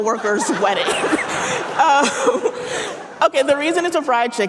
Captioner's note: audience laughing